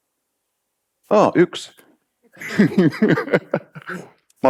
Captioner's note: laughs